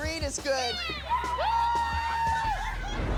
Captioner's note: cheering